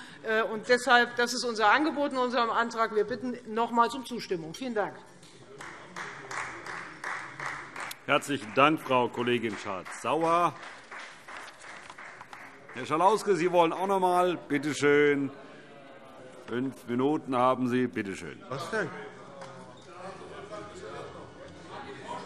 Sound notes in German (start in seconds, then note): 5.5 Beifall Freie Demokraten